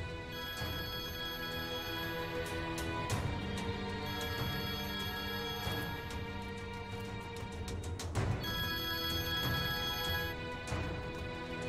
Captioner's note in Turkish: Telefon çalıyor